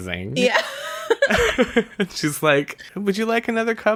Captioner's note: laughs